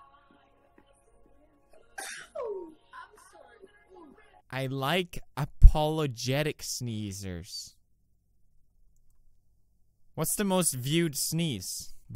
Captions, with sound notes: *Sneezing* "I like apologetic sneezers." What's the most viewed sneeze?